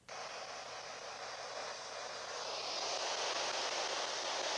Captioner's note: device hissing